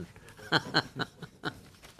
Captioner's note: laughter